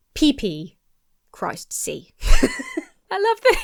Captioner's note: laughs